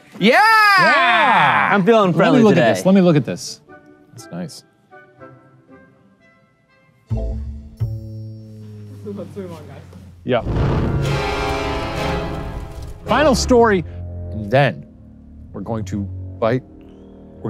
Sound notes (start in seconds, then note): 10.4 intense music; 10.4 smoke whooshing